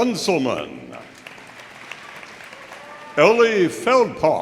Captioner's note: audience applauding